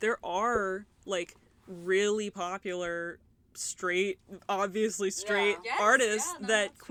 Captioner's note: agreement noises